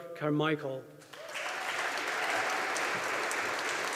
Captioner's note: audience applauding